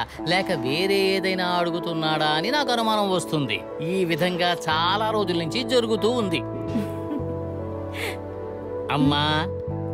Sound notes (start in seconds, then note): 6.7 chuckles